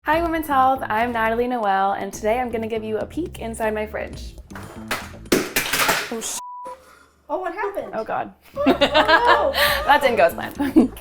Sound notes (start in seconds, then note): 4.5 object clatters; 6.4 beep; 8.5 laughs